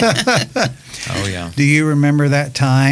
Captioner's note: laughing